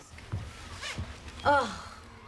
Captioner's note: sighing